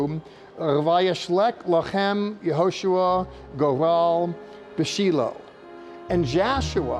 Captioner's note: speaking Hebrew